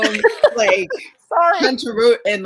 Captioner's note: laughs